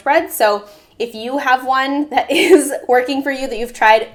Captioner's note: laughs